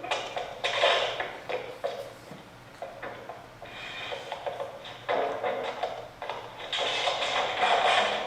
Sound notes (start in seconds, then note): 1.4 sound of items falling